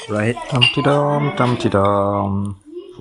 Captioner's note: happy humming